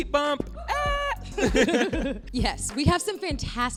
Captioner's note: both laughing